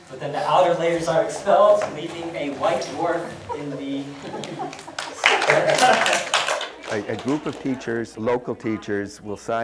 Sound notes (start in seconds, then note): 5.4 audience laughs and applauds